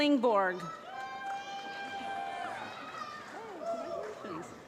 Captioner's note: applause